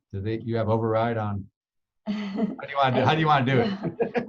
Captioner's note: laughing